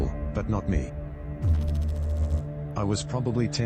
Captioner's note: electrical noise